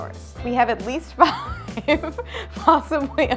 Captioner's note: laughs